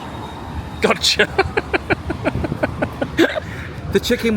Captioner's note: laughs